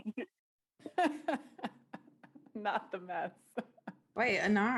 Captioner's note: laughter